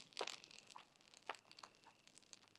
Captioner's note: crackling